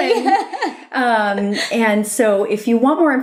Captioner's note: laughter